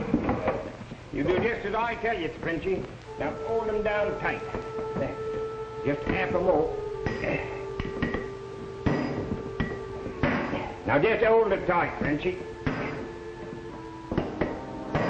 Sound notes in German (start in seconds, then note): 8.8 Metall klirrt